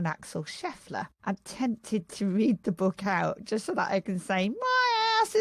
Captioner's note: adopts cockney accent